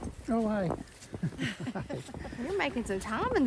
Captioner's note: laughs